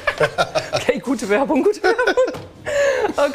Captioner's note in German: lacht